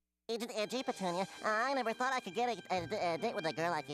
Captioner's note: stuttering